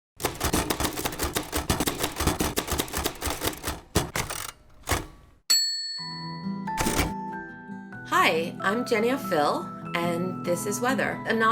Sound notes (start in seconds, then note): 0.2 typing on typewriter; 5.5 bell ringing; 6.0 soft music